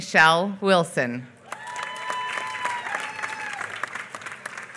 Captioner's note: applause